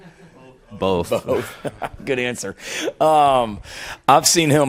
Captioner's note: laughs